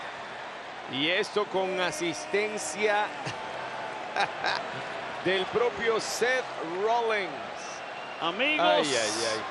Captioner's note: laugh